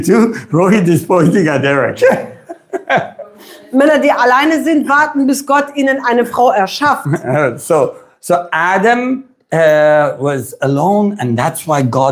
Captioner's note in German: gelächter